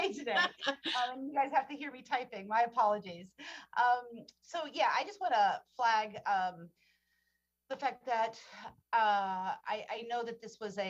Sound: laughter

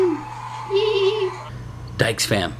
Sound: giggling

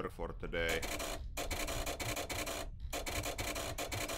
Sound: dial clicking

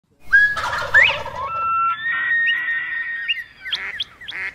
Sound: birds and Animal Sounds

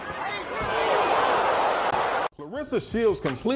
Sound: crowd cheering

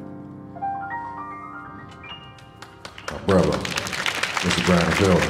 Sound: audience applauding

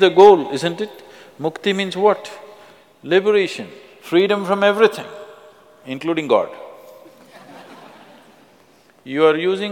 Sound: laughter

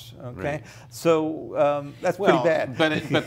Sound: laughs

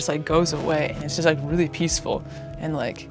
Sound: footsteps crunching

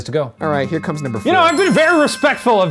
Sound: bell ringing

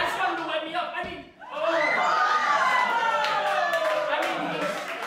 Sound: hoots and hollers

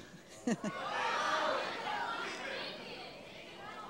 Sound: laughs

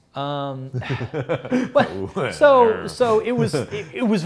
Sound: laughs

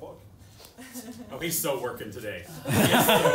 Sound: laughter

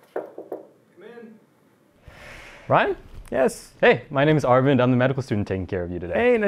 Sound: knocking

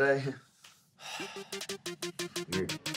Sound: sighs

